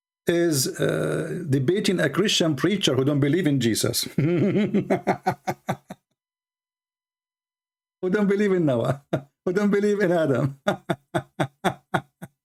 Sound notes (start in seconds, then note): 4.1 Ketawa